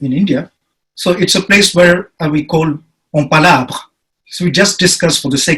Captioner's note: speaking in foreign language